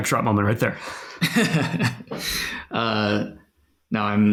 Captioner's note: laughs